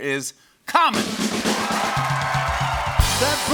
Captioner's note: cheers and applause